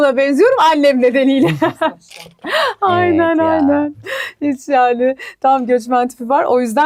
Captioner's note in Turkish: kahkaha